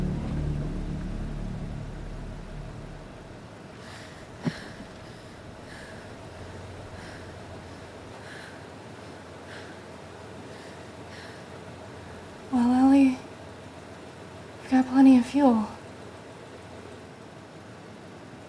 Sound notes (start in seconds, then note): 3.8 Quinn panting